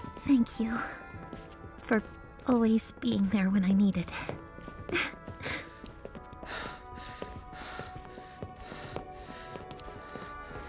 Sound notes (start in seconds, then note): 4.8 laughs tearfully; 6.4 panting softly